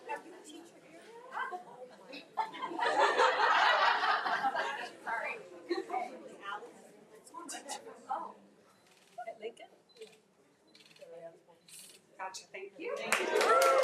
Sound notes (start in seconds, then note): 2.4 all laugh; 9.0 camera shutters